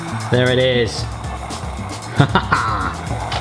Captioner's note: laughing